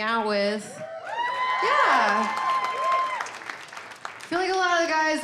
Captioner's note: audience cheering